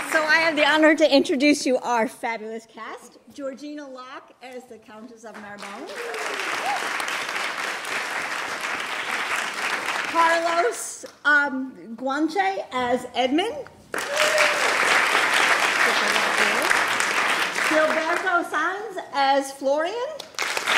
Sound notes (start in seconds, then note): 5.4 applause; 13.9 applause